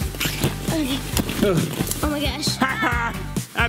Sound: gasps; groans

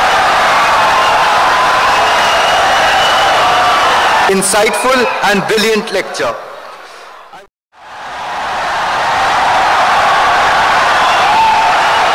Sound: wild applause and cheering for 17 seconds

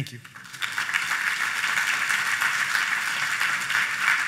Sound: applause

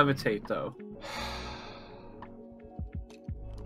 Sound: sigh

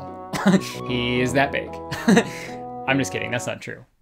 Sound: chuckles

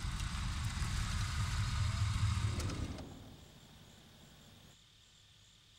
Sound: van screeches to a halt

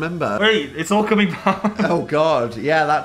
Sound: laughs

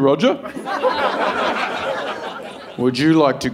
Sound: audience laughing

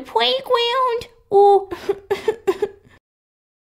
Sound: sobbing

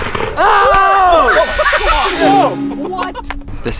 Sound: man screaming

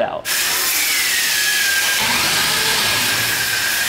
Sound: sparks buzzing

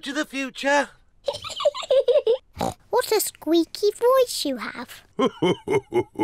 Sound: laughs

